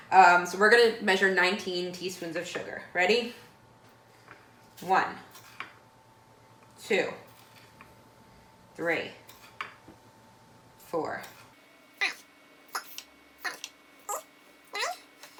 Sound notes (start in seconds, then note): 5.9 chipmunk Voice